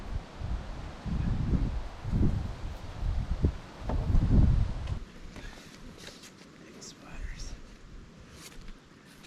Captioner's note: wind blowing